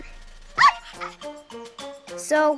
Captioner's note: dog barks